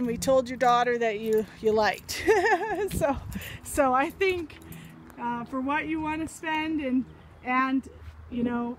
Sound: laughs

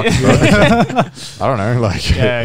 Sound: both chuckling

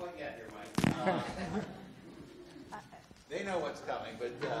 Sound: audience laughs

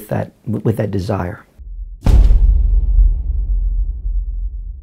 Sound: thud

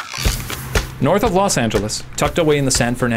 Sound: voiceover

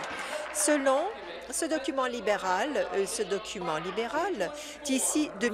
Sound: applause

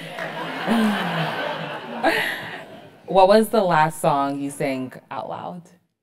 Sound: applause; laugh

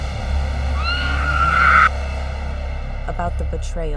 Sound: screaming

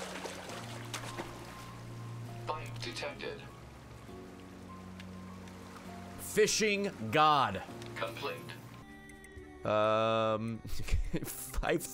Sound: laughs

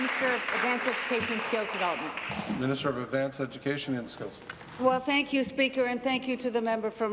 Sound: applause

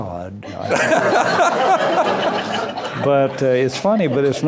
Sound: laughter

